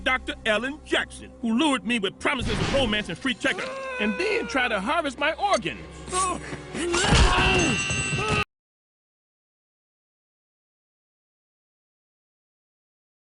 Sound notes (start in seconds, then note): 3.5 pianto di bambino